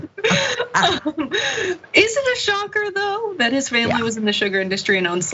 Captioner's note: laugh